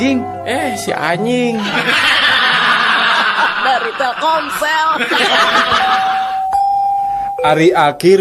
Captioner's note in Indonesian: tertawa